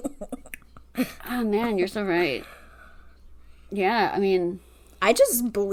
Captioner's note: laughs